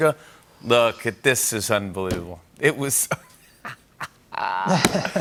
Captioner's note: laughs